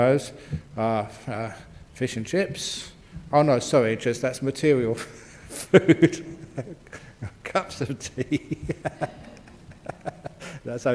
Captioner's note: laughs